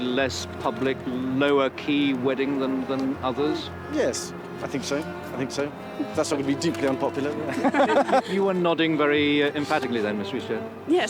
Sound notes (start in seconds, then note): 7.4 all laughing